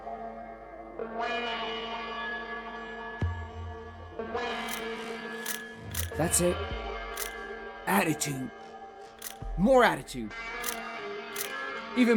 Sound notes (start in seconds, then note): 5.9 shutter clicking; 11.3 shutter clicking